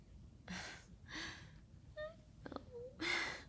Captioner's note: Shailene grunting